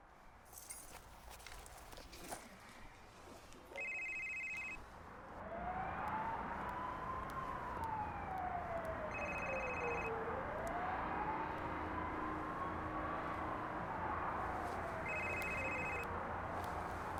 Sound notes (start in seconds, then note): 9.1 ringing continues